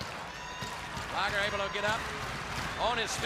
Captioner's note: crowd cheering